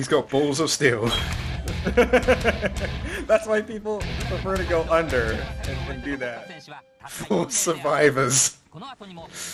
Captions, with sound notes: He's got balls of steel! *Laugh* That's why people prefer to go under then do that! 4 survivors....